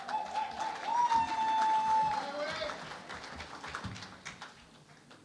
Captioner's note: cheering and Applause